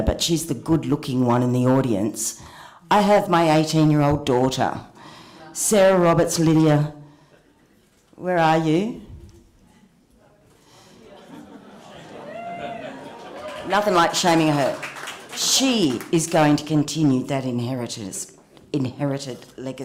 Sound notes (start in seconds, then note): 8.1 cheering and applause